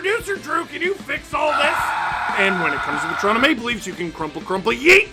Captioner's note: screaming